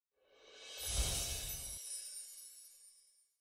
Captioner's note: graphics whoosh; graphics tinkle